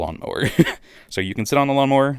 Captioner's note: laugh